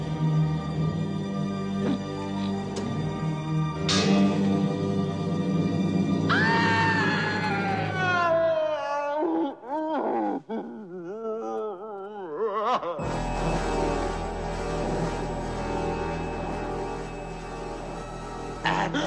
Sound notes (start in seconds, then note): 3.5 clanging; 6.0 slow, tense orchestral music; 6.2 screaming; 16.7 slow, tense orchestral music